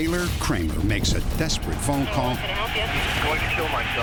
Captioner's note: on phone; on phone